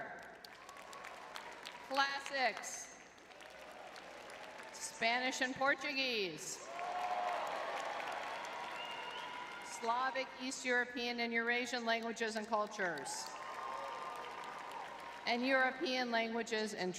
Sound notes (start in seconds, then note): 0.0 audience clapping; 6.6 audience cheering; 13.0 audience cheering